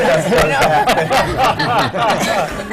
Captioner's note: laughter